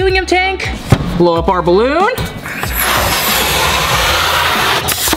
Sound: helium blowing

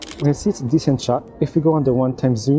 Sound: camera clicking

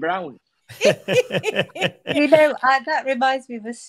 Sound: group laughing

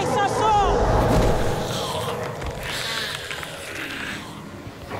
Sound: snarling

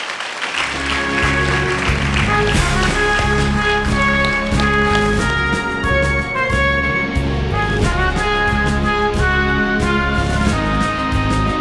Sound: applause and music

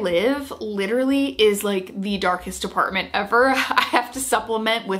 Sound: laughs

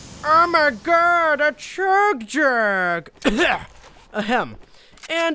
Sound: cough

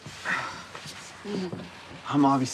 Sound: Travis sighs

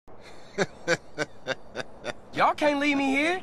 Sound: laughs evily

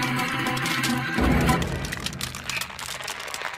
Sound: booming

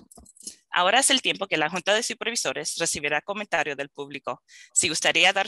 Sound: speaking in foreign language

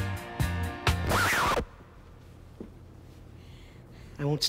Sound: needle Scratches Record

